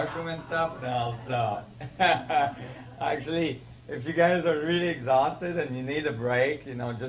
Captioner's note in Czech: smích